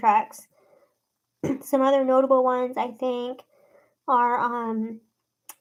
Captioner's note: clears throat